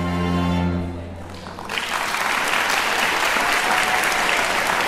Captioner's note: classical music ends; applauding